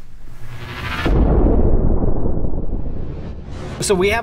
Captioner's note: energy booms